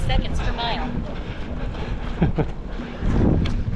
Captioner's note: laughs